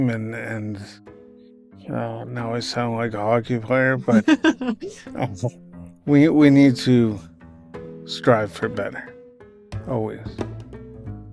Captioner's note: laugh